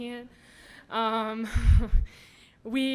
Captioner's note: laughs